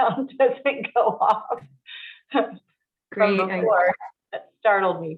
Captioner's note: women chattering